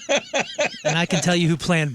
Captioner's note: laughing